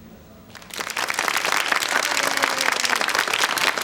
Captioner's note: crowd applauds